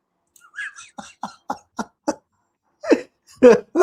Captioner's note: laughs